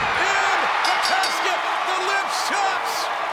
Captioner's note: audience cheers; bell rings